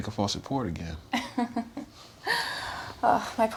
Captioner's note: Naomi laughing